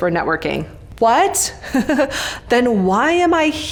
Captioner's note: laughs